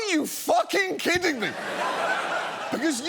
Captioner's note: studio audience laughing